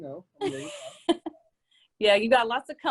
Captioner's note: laughs